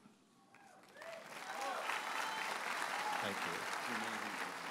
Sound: audience cheers and applauds

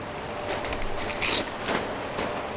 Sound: cracking noise

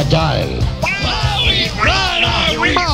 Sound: yelling

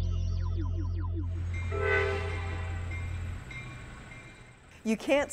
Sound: train horn

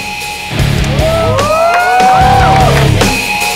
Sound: all hooting

